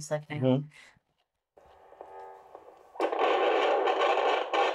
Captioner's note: machine noises